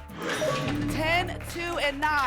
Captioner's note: lock sound